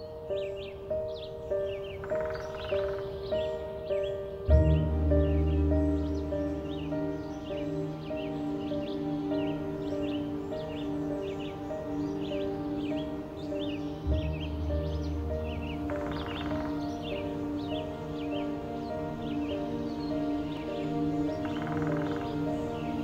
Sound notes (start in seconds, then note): 0.1 tranquil music; 5.3 birds singing